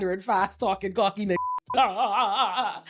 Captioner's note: beep